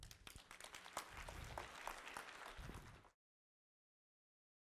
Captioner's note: audience applauds